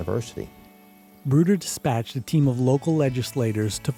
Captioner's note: voiceover